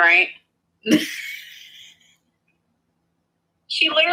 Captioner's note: Destiny laughs